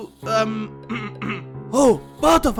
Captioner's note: yin clears throat